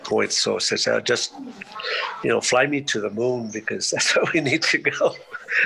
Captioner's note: laughs